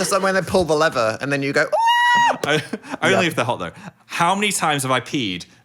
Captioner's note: screaming